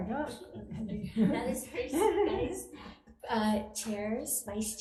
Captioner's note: people laugh